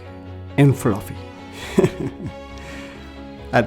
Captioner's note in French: rires